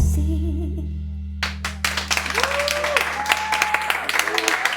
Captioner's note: applause